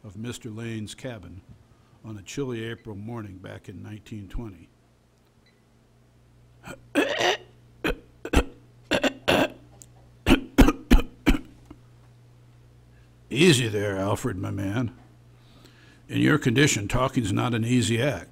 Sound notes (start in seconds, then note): 8.9 throat clearing sound